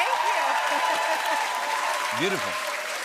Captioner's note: cheers and applause